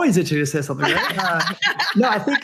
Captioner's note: laughs